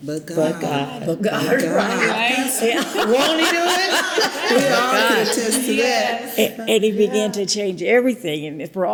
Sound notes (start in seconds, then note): 1.8 all laugh